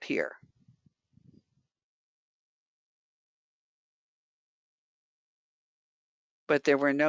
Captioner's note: 5 seconds pause